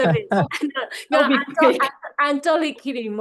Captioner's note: faintly speaking